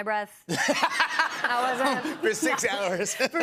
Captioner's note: laughter